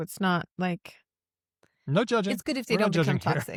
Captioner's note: laughs